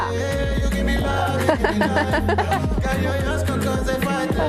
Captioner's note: laugh